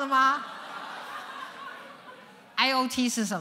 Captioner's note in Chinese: 笑聲